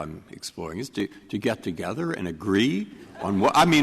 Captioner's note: laughter